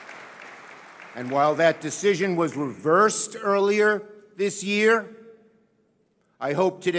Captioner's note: applause